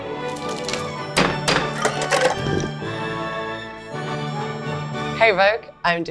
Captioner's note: knife banging